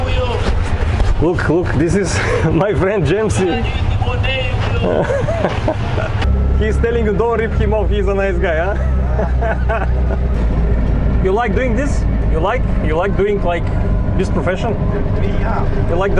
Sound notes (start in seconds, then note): 3.5 man screaming